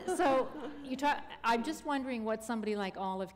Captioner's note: chuckle